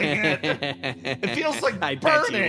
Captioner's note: Etete Laughing